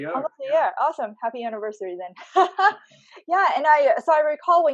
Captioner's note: laughs